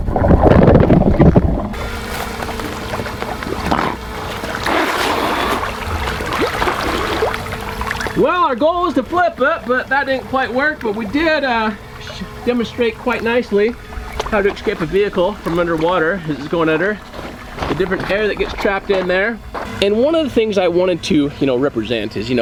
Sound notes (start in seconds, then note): 3.5 water spitting